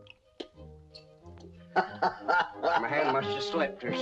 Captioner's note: laughs